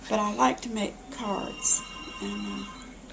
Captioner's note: phone ringing